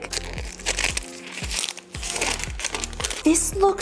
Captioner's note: plastic crackling